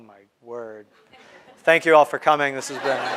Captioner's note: crowd laughing